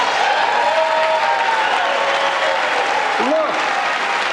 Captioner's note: laughter and applause